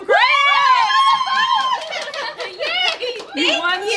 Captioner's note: all cheering and clapping